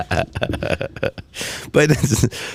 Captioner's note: laughing